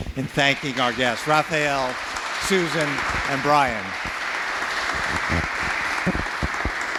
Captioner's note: audience applauding